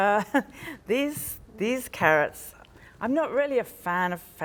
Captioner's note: chuckles